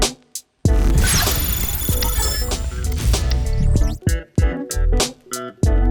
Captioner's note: digital tones ringing